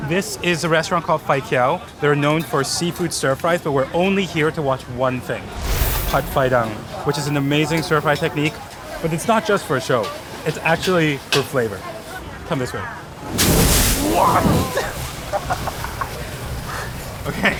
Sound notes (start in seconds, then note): 5.4 fire roaring; 13.2 fire roaring; 15.2 person laughing